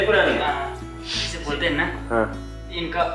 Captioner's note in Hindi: नाक से की जाने वाली आवाज़; गला साफ़ करने की आवाज़